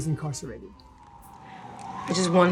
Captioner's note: sirens wailing